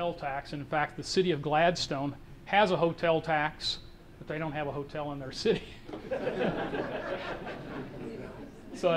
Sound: audience laughter

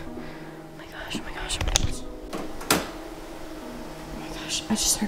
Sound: whispering; door clicking

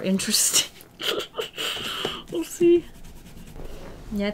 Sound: laughs nervously

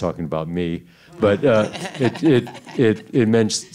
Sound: Edgar laughing

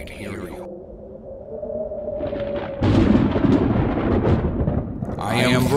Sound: thunder

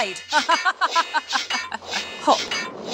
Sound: sounds of blades and boulder

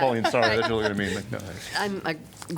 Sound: laughter

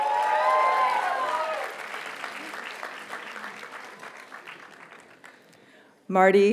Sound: audience cheers and applauds

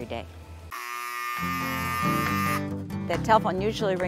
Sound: telephone buzzing loudly

